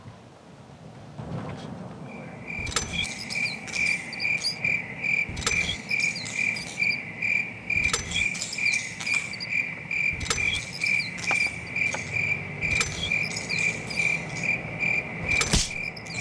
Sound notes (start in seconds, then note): 3.0 chirping